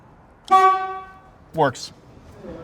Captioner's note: honks